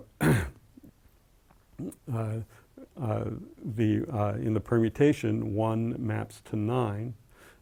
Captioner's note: cough